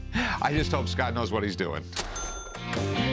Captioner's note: cash register rings